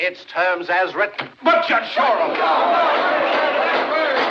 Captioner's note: spectators Clamoring; gavel Pounding